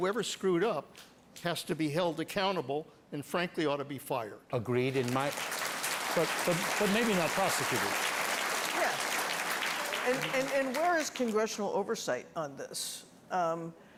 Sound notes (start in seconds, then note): 9.0 applause